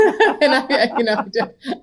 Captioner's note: laughing